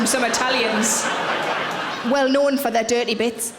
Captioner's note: audience laughing